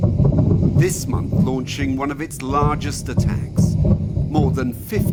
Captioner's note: bombs booming